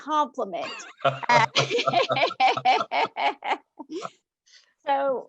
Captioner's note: laughs